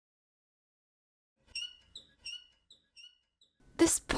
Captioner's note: squeaking away